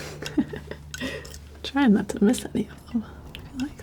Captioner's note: laughs